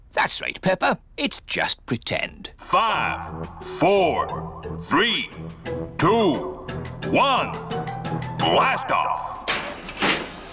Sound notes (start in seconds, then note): 3.1 on speakers